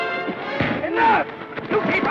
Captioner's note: thud